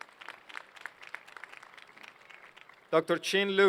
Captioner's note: applause